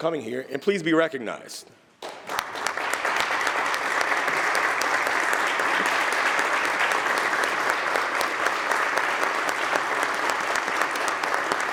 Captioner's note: applause